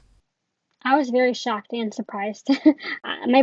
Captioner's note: laughs